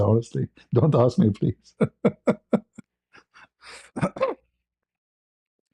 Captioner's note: ketawa